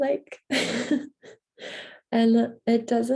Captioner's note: chuckles